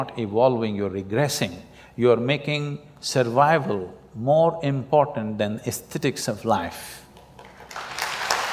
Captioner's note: applause